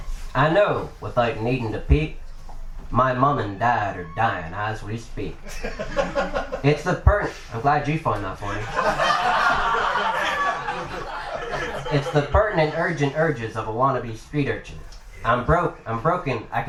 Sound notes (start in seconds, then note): 5.4 audience Member Laughs; 8.1 everyone Laughs